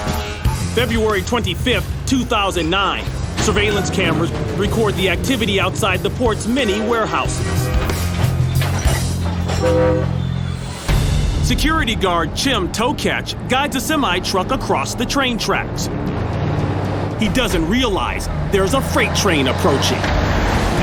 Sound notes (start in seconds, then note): 8.0 train whistle blowing